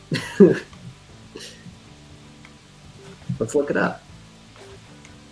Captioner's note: laughs